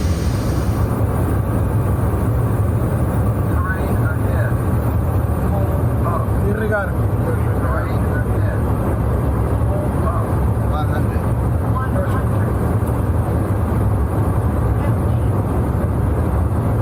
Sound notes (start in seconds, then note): 3.4 automated voice on speaker; 8.5 automated voice on speaker